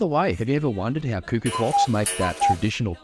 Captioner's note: cuckoo clock dings